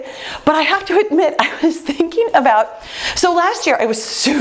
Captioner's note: laughs